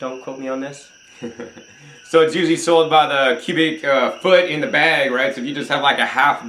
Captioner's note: chuckles